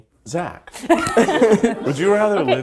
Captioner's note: laugh